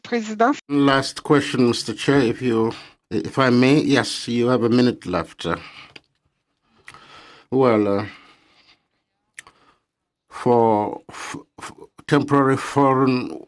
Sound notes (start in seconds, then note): 2.5 speaking French